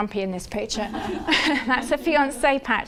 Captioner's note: everyone laughing